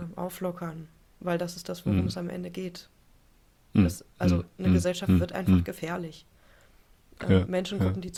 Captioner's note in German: räuspern